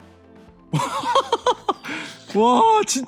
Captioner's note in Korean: 큰 웃음